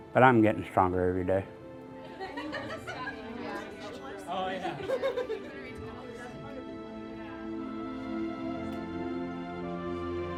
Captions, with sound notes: But I'm getting stronger every day. (people laughing) Oh yeah. (somber music continues)